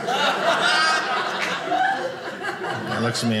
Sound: audience laughing

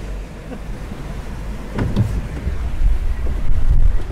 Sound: chuckles

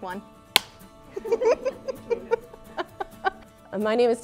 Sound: laughing

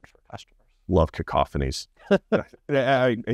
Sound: chuckles

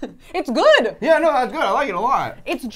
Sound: laughs

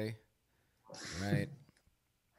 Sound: laughs

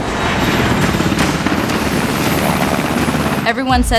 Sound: helicopter blades thrumming

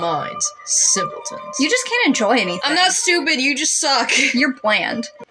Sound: chuckle

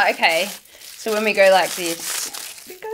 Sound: foil crinkles

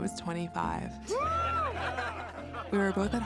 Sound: people cheering and laughing

